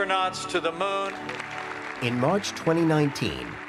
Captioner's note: applause